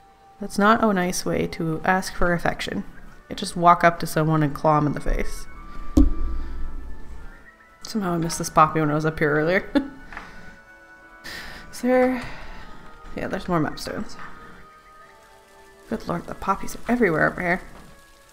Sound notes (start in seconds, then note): 5.9 mic hit again; 10.2 laughs